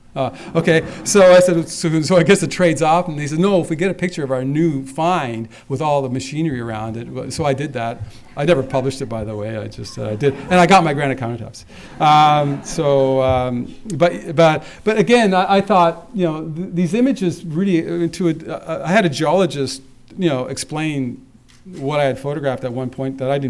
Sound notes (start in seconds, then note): 11.7 laughter